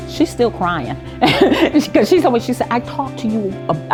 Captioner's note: laughs